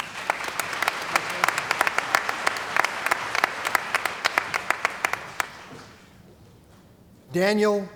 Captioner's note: applause